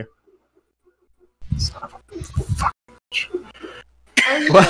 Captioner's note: whispers; laughs